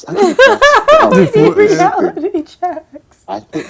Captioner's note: laughing